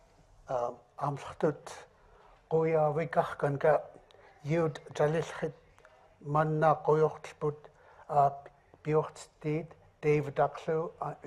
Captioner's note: speaking in another language